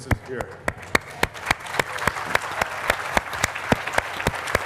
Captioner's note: applause